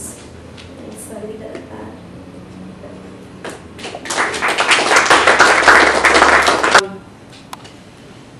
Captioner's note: applause